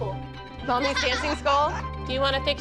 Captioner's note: laughs